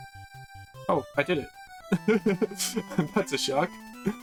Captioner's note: chuckling